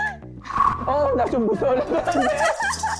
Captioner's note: anxious sound effect